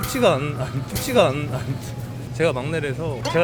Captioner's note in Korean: 푸흡